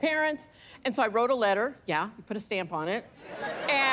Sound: laughter

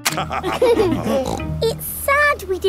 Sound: laughter

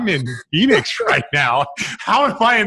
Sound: laughs

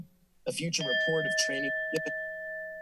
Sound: alarm sound

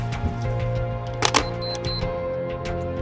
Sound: shutter clicks

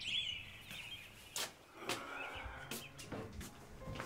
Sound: sighs

